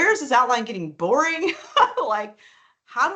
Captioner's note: laughing